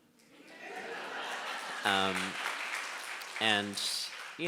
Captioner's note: audience applauding